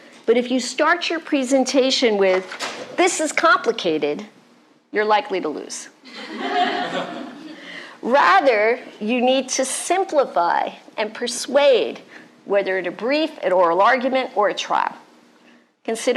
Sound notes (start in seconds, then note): 6.1 laughter